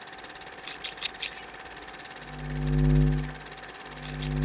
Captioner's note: scissor sniping